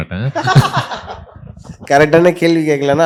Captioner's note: amused laughter